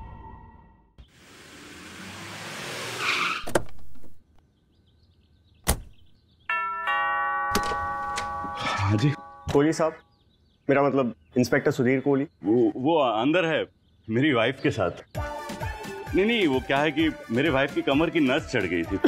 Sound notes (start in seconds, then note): 1.6 car halting; 3.4 car door opens; 5.6 car door closes; 6.5 doorbell ringing; 7.5 door opens